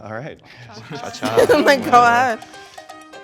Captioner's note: chuckling